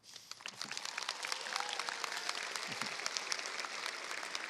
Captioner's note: crowd applauds